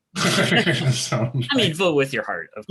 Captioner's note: chuckling